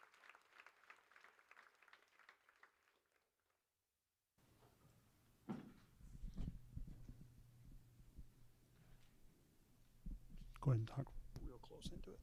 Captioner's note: applause